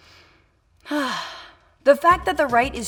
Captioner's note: sigh of relief